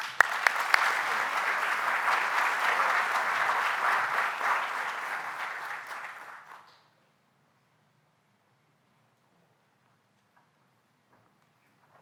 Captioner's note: applause